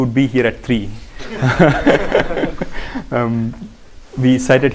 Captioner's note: laughter